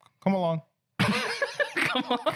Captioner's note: laughing